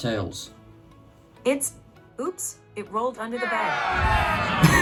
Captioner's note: crowd boos; laughs